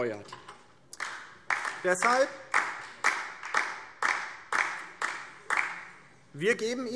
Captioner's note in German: Beifall DIE LINKE